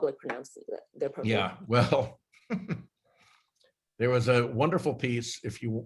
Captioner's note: laughs